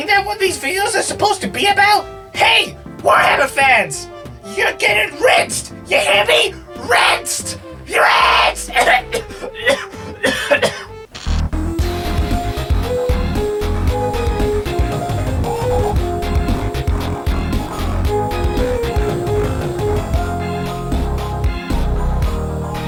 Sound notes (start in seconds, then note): 11.0 starts coughing hoarsely